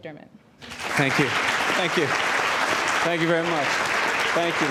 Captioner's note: audience applauds